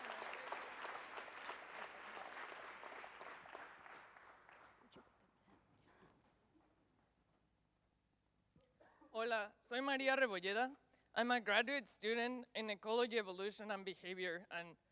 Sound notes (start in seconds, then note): 10.3 speaks in Spanish